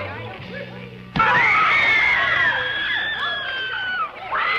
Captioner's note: screams